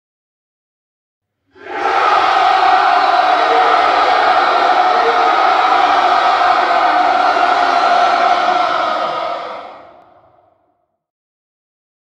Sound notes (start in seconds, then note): 0.0 sound of cheering